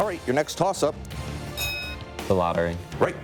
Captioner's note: bell dings